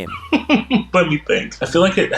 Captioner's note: laughing